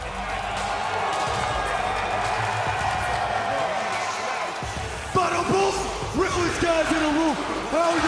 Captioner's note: cheers and applause